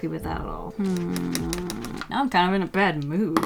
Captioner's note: annoyed sounds